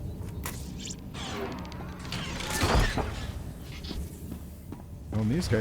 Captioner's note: gunfire